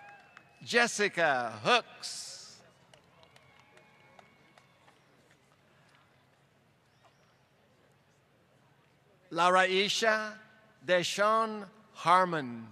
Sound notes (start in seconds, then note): 2.6 applause